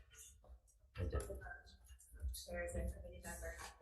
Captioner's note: speaks faintly